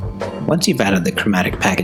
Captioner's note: voiceover